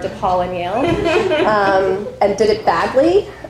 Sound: people laughing

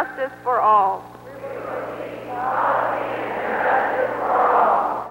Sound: crowd repeats

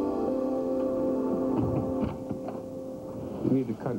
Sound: knock knock

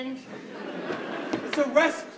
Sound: audience laughs

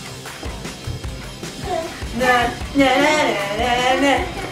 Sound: humming

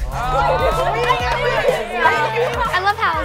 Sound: upbeat music continues; everyone yelling

